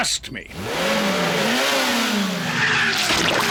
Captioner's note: revs engine